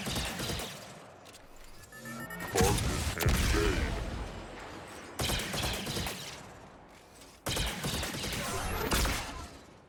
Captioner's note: gunshots